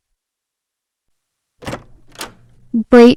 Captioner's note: door opens